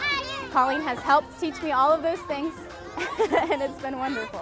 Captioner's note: laughing